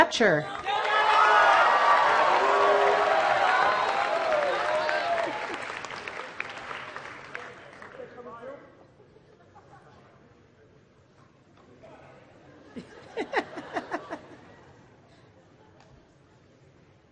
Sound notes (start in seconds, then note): 0.5 applause